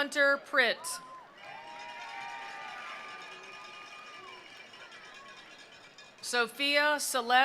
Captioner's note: attendees cheering; attendees applauding